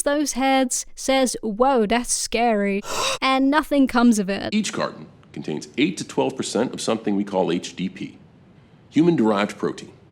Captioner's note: gasp